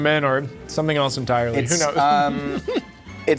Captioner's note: laughing